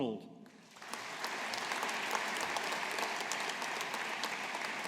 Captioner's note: audience applauding